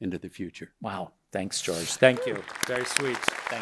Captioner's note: audience applauding